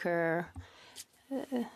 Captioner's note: speaking in French